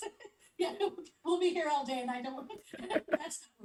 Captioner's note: chuckles